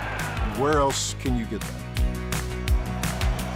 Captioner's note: crowd cheers